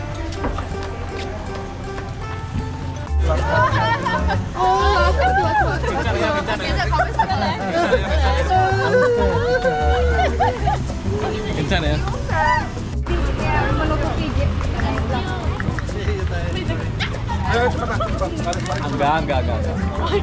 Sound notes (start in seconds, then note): 3.2 chuckled; 17.2 shout; 19.8 chuckled